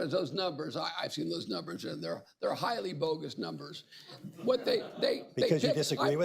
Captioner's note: laughter